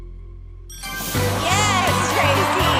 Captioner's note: ding